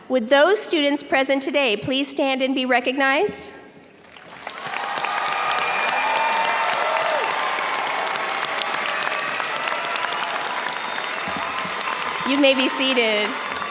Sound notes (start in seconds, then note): 4.0 audience cheers and applauds